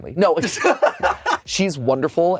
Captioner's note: both laugh